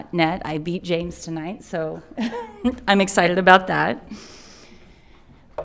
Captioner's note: chuckles